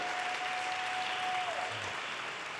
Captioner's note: audience cheers and applause